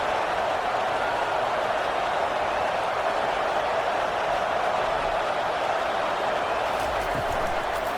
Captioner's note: crowd Noises